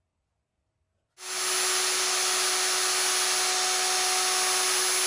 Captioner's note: machinery whirs